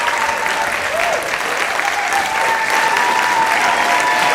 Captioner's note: audience cheering